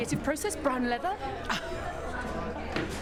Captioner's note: chuckles